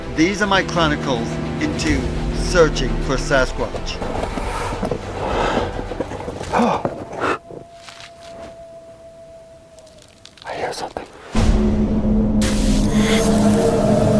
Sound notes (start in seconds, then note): 4.0 bright upbeat music; 6.5 gasps; 7.0 leaves crunching; 11.3 eerie music